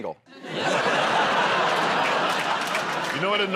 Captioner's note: laughter